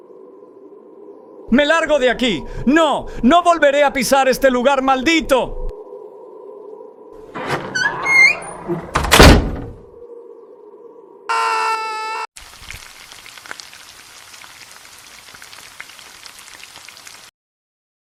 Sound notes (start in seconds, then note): 7.3 the door closes by itself; 11.3 super manly scream; 12.4 hot pan